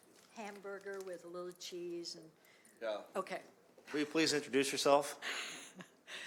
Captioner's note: chuckling